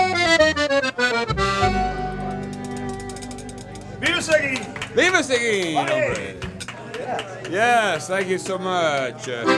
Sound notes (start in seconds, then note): 4.1 shouts in Spanish; 5.7 man shouts excitedly